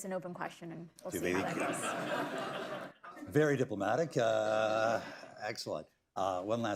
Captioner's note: laughter